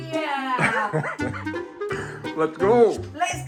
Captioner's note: laughing